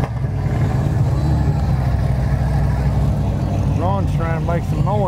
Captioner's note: revving continues